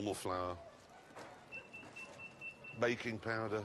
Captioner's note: beeping nearby